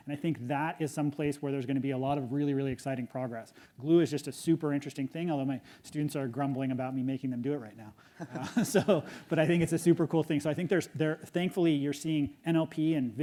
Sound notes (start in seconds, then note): 8.2 audience laughs